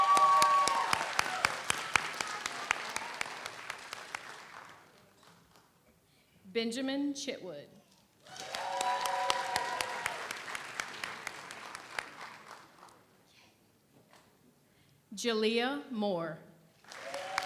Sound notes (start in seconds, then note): 0.0 audience cheers; 0.0 audience applauds; 8.2 audience cheers; 8.3 audience applauds; 16.8 audience applauds; 16.9 audience cheers